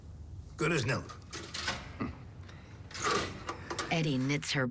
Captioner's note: chuckles